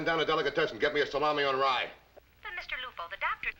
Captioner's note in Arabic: تعليق صوتي